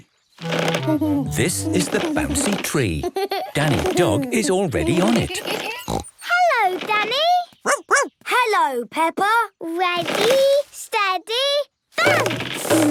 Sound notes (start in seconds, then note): 4.9 snorts; 7.6 barks